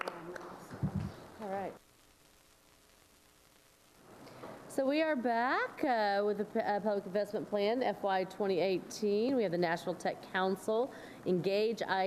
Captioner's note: applause